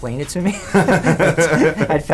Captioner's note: laughs